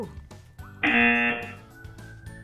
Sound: buzzer

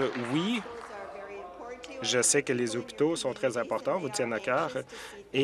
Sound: applause

